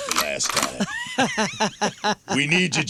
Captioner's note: laughing